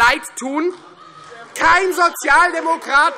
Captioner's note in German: Beifall Freie Demokraten und vereinzelt AfD